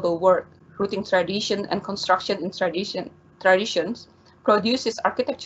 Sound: stammers

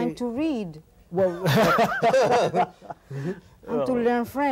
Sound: laughing

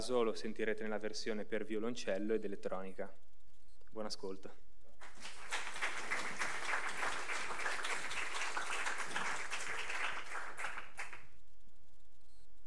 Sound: applause

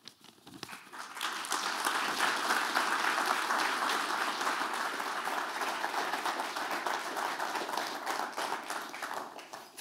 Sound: applause

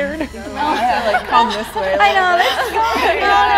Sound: nervous chatter

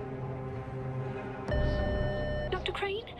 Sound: tense music; intercom beeps

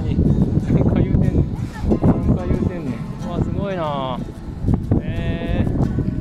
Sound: laughs

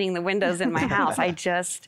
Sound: laughter

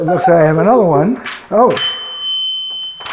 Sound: bell ringing

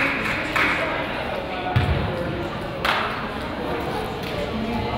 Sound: crowd applauds; crowd chatters

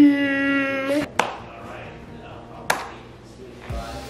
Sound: slow claps

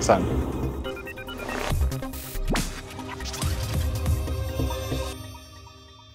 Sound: upbeat music; machine beeping

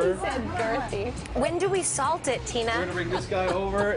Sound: laughing

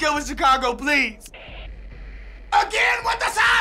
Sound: static

